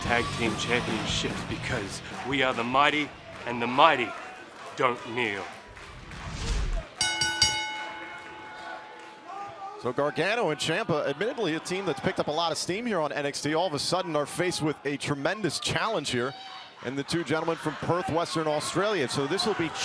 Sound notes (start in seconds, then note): 7.0 bell ringing; 7.5 crowd chatter